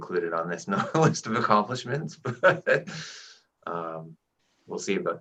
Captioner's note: laughing